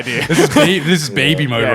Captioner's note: laughing